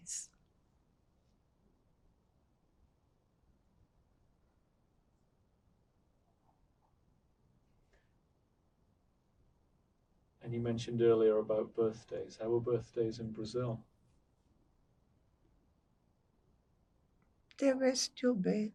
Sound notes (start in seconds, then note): 1.4 pauses 10 seconds